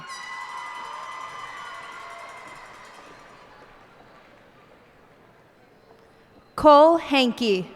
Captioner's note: cheers and applause